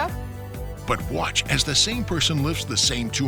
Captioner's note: voiceover